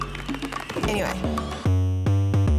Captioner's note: fireworks crackling; upbeat funky music